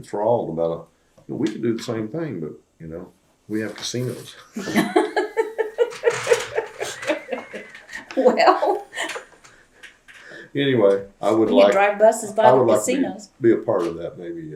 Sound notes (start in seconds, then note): 4.5 laughter